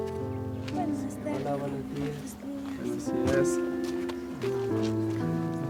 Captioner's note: speaking foreign language